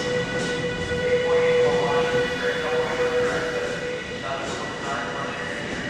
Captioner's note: man speaking over P.A